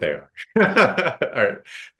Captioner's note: chuckling